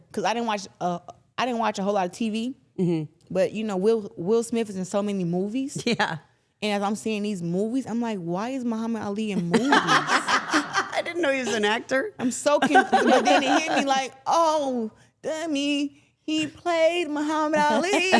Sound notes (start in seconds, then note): 9.4 interviewers laughing